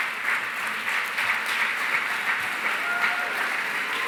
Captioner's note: cheering, applause